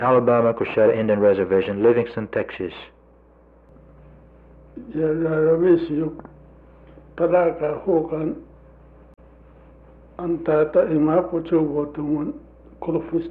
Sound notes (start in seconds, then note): 3.7 voice of Native American speaker